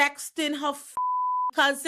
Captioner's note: beep